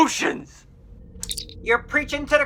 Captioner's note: communicator chirp